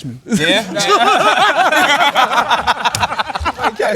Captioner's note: laughter